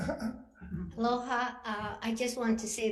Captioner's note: laughter